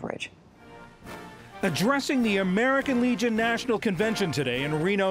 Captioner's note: voice-over